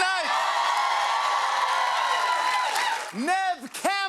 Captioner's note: cheers and applause